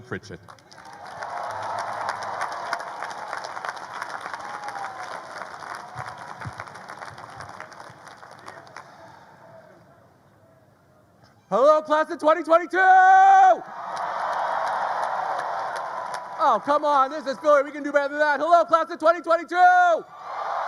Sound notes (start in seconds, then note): 0.5 graduates applaud; 0.7 graduates cheer; 12.8 graduates cheer; 13.8 graduates applaud